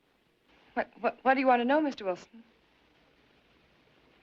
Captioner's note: stuttering